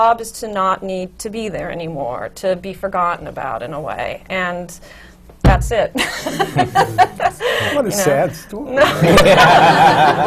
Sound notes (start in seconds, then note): 6.0 laughs; 8.8 laughter